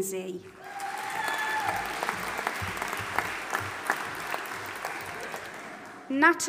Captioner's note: audience applauding and cheering